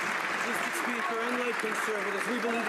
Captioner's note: some Applause